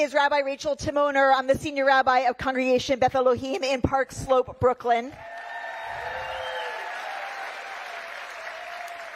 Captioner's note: cheering